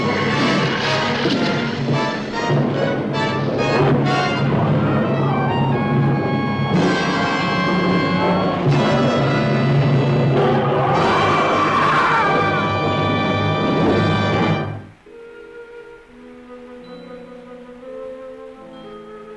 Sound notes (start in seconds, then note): 10.4 creature roaring; 14.7 soft instrumental music